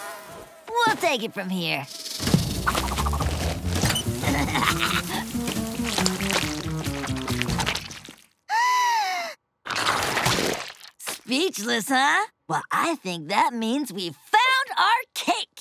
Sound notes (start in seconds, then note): 4.1 laughing; 7.9 gasping